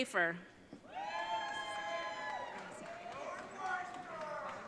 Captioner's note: audience cheering